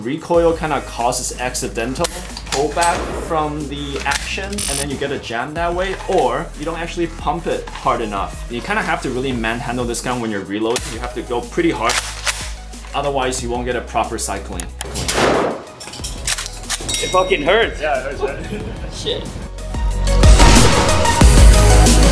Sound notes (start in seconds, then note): 11.8 gun clicking; 15.1 gun firing; 15.6 check mark dings; 16.1 gun clicking; 19.0 gun firing; 19.0 upbeat music